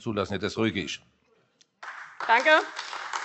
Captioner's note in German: Beifall AfD